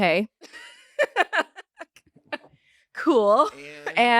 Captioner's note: laugh